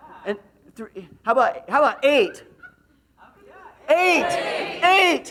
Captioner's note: laughs